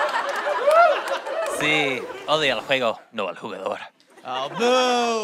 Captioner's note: speaks spanish